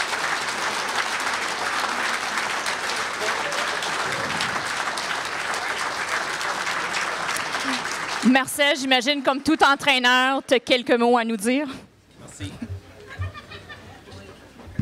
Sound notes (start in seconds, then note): 8.2 announcer, in French; 12.4 laughter